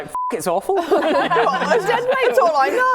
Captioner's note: laughing